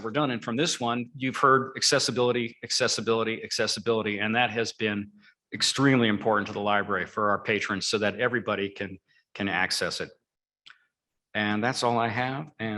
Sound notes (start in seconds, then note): none